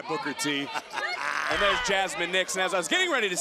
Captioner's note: Booker laughing